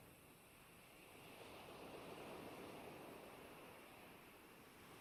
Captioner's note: waves splashing